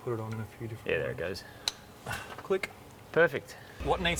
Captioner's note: clicks